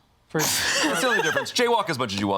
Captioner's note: laughs